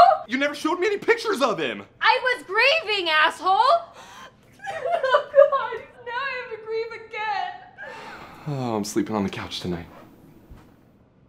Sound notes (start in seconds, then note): 3.8 sobbing; 7.8 sighing